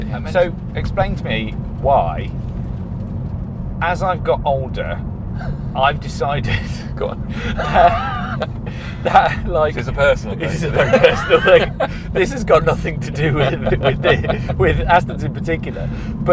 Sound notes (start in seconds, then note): 6.9 laughs